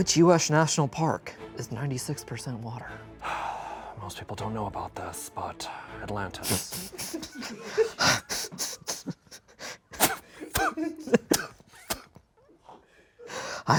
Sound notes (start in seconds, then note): 6.4 and crew laugh; 10.7 stifling laughter